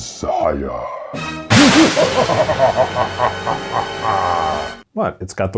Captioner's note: evil laughter